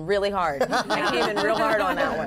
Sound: laughter

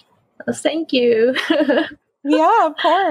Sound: laughs

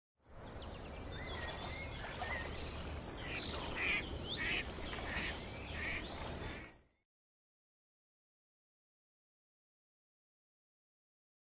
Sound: birds chirping

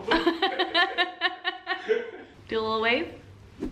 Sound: both laugh

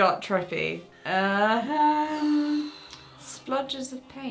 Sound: exhaling

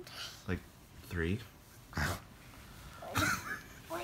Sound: laughing

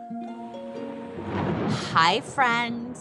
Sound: thunder rumbles

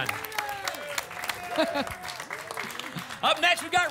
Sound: applause and cheering cont

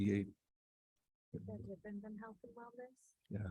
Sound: indistinct conversation

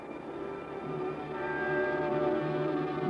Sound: bells chiming

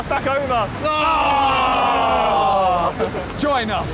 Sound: all cheering

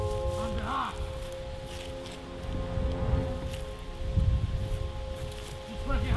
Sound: man yelling faintly in foreign language

